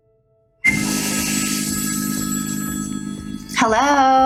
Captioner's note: gentle music; phone rings